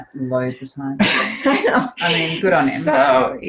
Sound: laughs

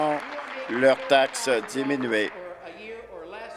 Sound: applause

